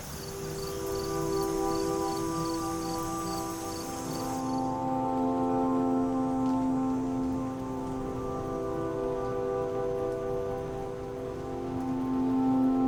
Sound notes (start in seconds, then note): 0.7 crickets chirping; 4.1 soft music